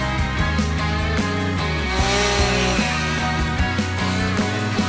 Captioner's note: chainsaw noises